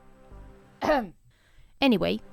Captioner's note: ahem